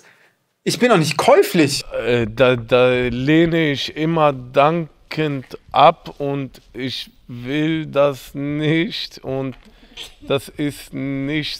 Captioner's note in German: stotternd